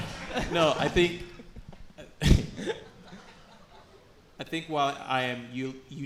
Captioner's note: laughs